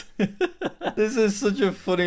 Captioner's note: laughs